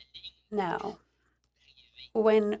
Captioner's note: speaking in French